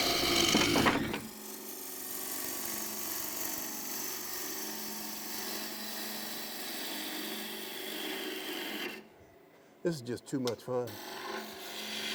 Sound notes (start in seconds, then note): 1.6 wood rasping